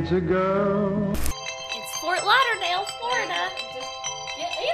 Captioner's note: phone rings